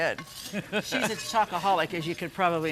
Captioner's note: laughs